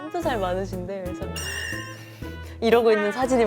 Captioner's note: huff puff